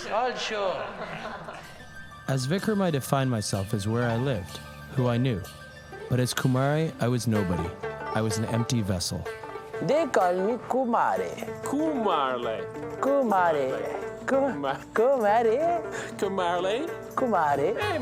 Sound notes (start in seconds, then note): 0.0 students Laugh; 0.0 学生笑; 15.9 laughs